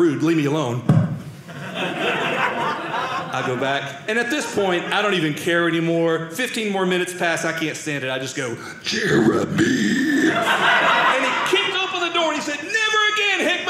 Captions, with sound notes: Leave me alone. (audience laughing) I'll go back. And at this point, I don't even care anymore. 15 more minutes pass, I can't stand it, I just go-- (deep scary voice) Jeremy! And he kicked open the door. He said, "never again, Hickman!